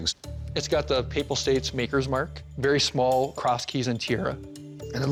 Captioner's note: none